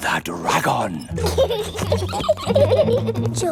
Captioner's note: both giggling